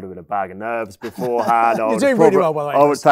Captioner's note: laughs